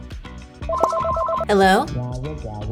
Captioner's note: phone ringing